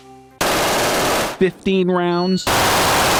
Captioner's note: gun fires